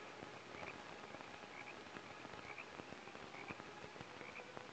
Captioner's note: frogs croaking; insects chirping